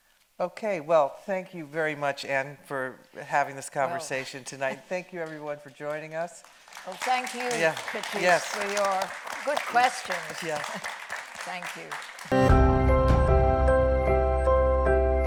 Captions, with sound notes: - Okay, well thank you very much, Ann, for having this conversation tonight. Thank you, everyone, for joining us. (audience clapping) - Well thank you, Patrice, for your good questions. - Yes. - Thank you. (bright music)